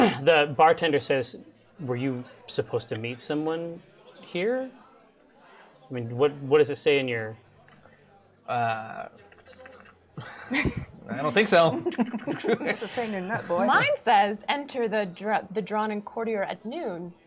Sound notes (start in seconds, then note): 9.4 unfurls scroll sound; 11.4 rolls up scroll sound